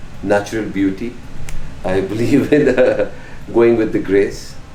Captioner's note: laughs